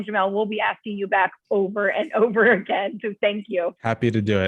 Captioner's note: laughter